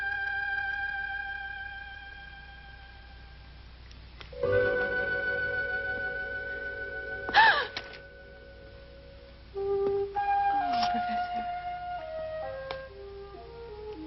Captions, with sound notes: (soft instrumental music) (Priscilla gasps) - Hello, Professor.